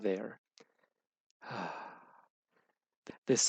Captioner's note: relieved sight